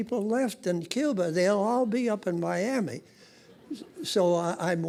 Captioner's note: audience laughing